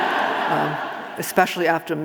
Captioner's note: audience laughing